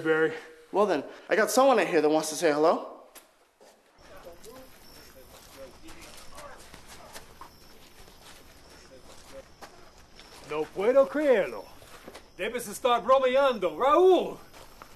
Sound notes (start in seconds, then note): 3.9 night din; 10.2 speaking Spanish